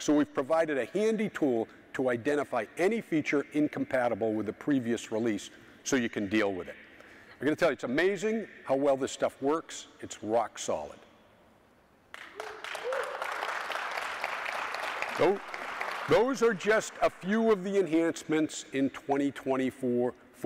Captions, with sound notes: So we've provided a handy tool to identify any feature incompatible with a previous release so you can deal with it. I'm gonna tell you, it's amazing how well this stuff works. It's rock solid. (audience cheering) (audience applauding) Those are just a few of the enhancements in 2024.